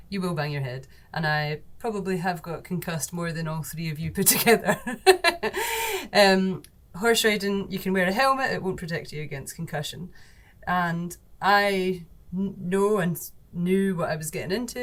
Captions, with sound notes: you will bang your head. And I probably have got concussed more than all three of you put together. (laughs) Horse riding, you can wear a helmet, it won't protect you against concussion. And I know and knew what I was getting into